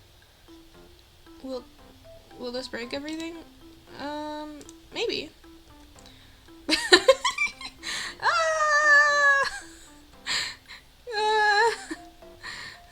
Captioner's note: hysterical laughing and screaming